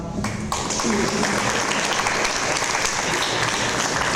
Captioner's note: audience applause